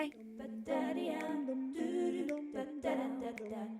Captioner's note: vocal humming